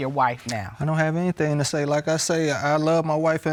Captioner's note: clicks tongue